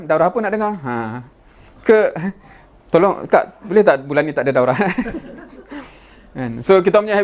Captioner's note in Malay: ketawa